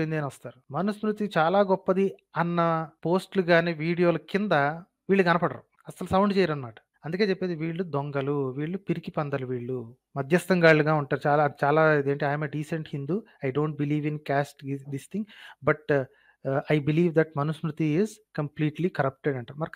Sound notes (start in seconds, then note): 15.8 speaks in English